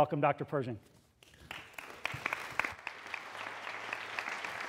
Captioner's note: applause